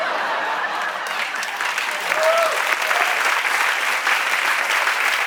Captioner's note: applause